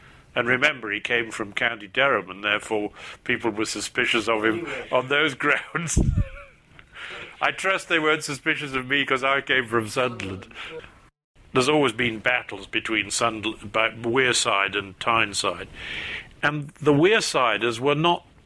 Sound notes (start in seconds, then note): 5.8 laughs